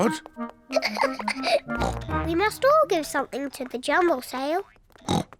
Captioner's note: giggles; oinks